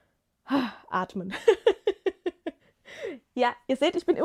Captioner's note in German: gelächter